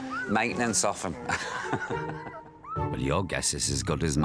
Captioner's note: laughs